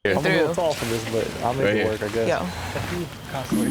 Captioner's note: group chatters